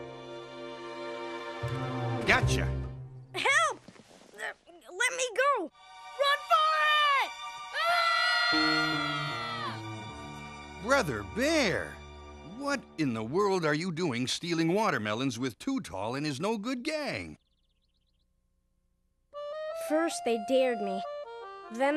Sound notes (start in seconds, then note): 8.7 yelling